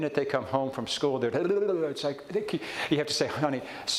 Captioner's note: mimics fast speech